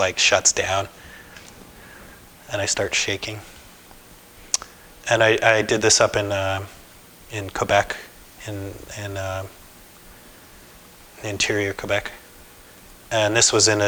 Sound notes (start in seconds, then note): none